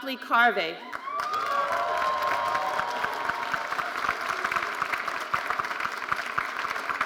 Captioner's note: audience cheering and applauding